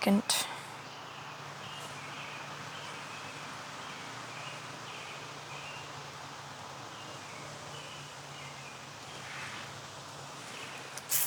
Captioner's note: birds Chirping